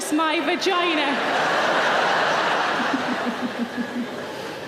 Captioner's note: audience laughing